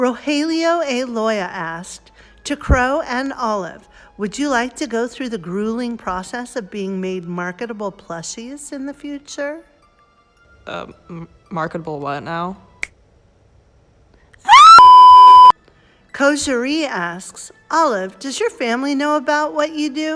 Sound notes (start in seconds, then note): 11.4 stutters; 14.4 screams